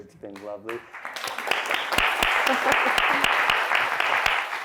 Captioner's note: applause